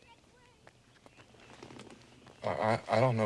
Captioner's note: none